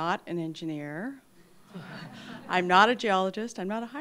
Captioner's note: laughter